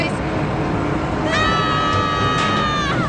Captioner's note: all yelling